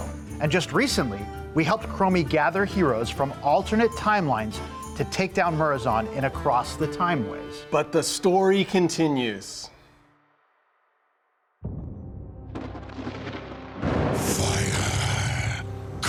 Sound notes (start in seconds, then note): 11.7 sinister orchestral music; 12.8 thunder crashing